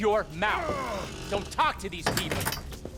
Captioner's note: thief groaning as safe shuts